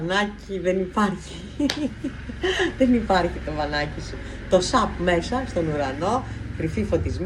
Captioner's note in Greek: γέλια